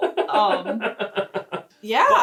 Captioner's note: laughing